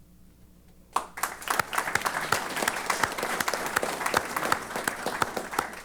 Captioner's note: applause